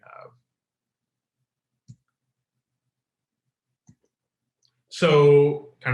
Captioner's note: mouse clicking